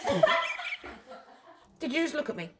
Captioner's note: laughter